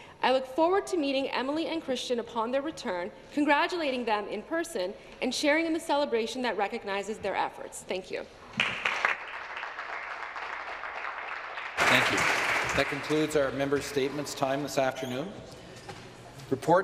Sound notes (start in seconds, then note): 12.2 some applause